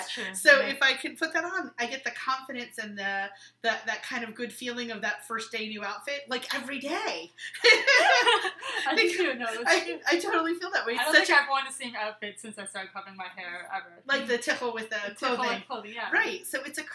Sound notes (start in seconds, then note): 11.2 laughing